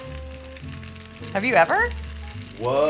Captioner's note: sizzling